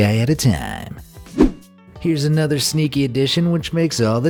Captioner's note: air whooshing